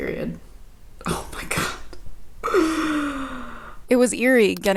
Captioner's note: gasps